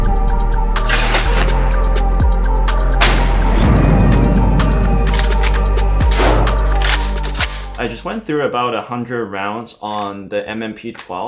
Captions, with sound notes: (gun clicking) - I just went through about 100 rounds on the M&P12